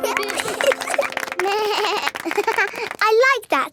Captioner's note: snorts; bleats and laughs; laughing